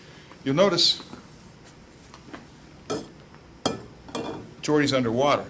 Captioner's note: glass clanking